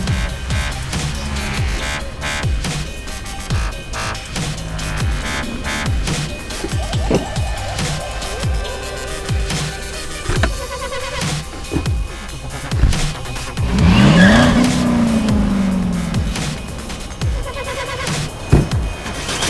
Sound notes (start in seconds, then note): 0.1 upbeat techno music; 13.9 engine roaring; 16.4 upbeat techno music